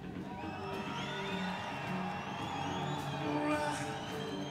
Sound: crowd cheering

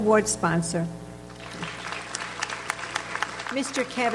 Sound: audience applauds

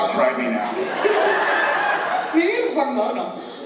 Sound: laughter

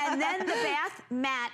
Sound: laughter

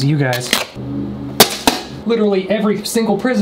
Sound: object clatters

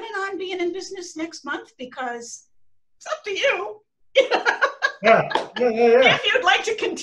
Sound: laughter

